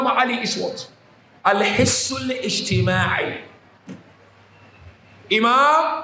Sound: Arabic

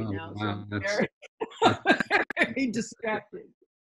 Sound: Kara laughing

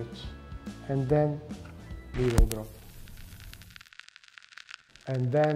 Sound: static crackling

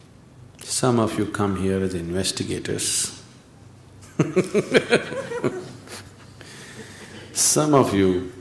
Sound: laughs

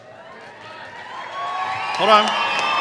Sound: cheering

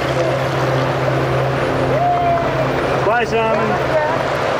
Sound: people Clapping

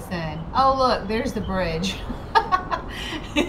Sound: laughs

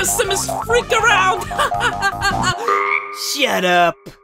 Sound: croak

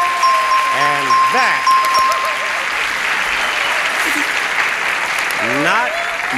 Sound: audience clapping

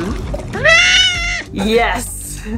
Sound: background music; loud high-pitched scream-like vocalizations; background music

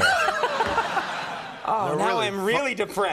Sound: laughter

